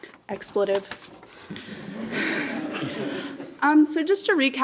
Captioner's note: laughter